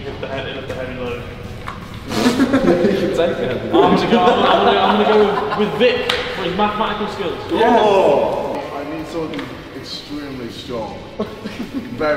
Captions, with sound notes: - Who can lift a heavy load? (laughing) - Who can take a heavy load? - I'm going to go with Vic, for his mathematical skills. - Oh! - I need someone extremely strong.